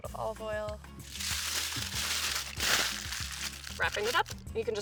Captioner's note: foil crumpling